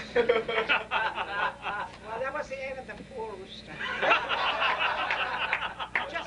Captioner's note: laughter